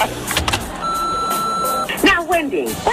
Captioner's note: phone rings